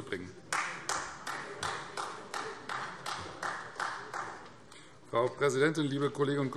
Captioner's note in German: Beifall Freie Demokraten